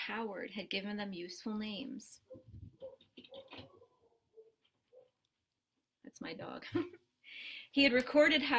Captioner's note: barking noise in background.., that's my dog